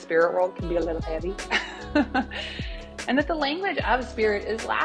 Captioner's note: laughs